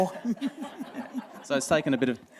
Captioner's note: laughter